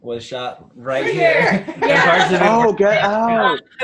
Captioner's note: laughs